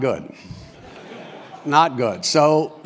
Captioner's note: laugh